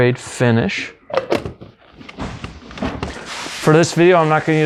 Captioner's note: lid twisting